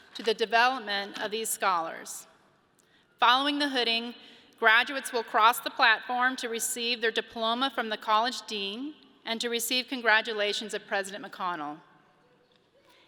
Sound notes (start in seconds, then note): none